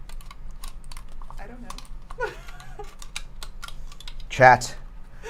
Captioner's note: laughs; laughs